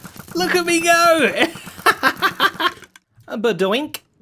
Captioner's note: laughs